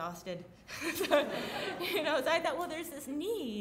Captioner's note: laughing